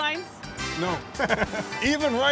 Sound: laughs

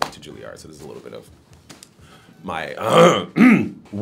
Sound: clears throat

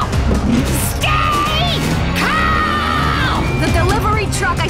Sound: yells

